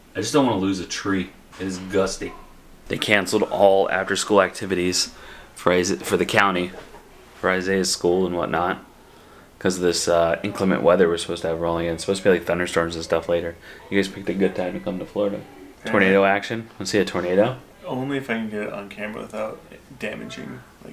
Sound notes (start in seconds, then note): none